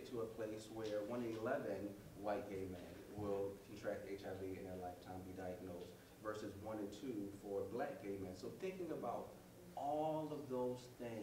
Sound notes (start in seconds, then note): none